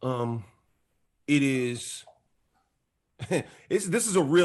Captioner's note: chuckles